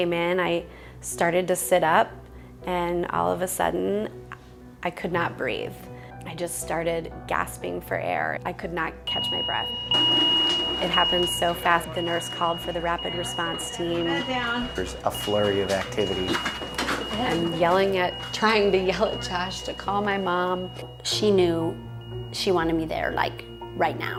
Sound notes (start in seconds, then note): 9.6 alarm bell; 14.1 voiceover; 16.1 alarm bell and equimpent moving